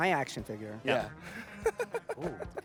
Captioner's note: laughing